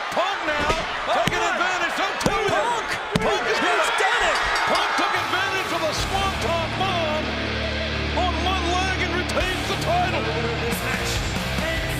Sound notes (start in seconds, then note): 4.2 bell rings